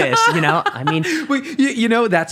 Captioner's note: laughing